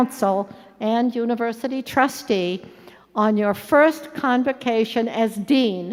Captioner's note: none